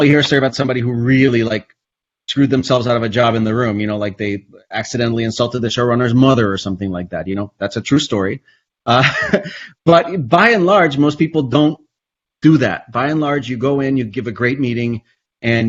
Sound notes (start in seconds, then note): 9.1 laughs